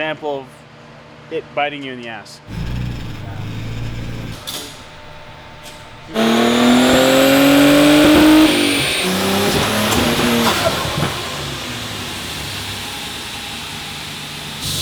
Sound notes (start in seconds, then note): 6.4 car engine roaring